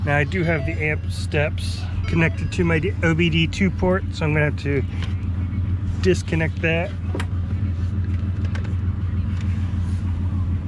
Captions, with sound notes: Now I do have the amp steps connected to my OBD2 port so I'm gonna have to disconnect that. (engine running)